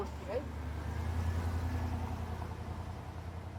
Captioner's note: vehicle driving